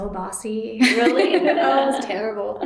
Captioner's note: laughter